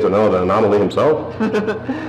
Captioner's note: giggles